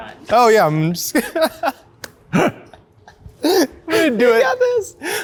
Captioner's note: laughs